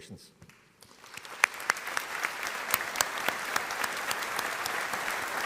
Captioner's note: audience applauding